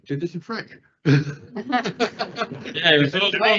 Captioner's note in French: rires